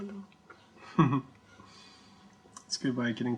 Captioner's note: cameraman laughs